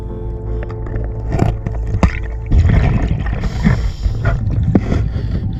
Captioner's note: metal scratching